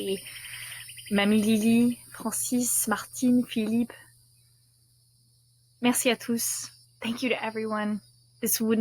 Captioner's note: non-english speech